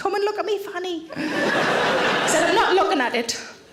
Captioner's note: audience laughing